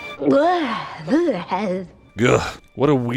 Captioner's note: yuck noises